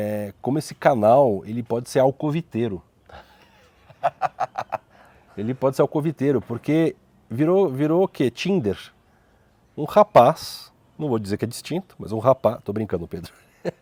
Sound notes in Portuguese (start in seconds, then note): 3.1 risos